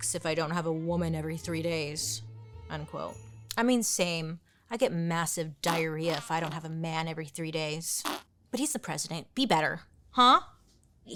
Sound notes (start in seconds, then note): 8.0 fart squelching